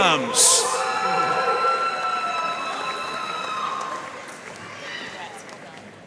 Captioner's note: audience cheering and applauding